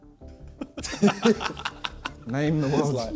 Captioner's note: men laughing